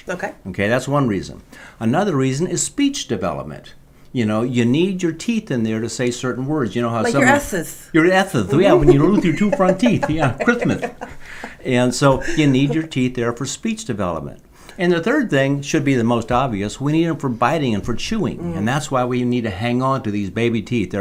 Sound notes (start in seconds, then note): 11.8 laughing